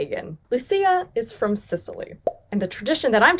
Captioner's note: image pops